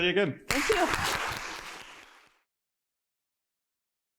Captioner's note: applause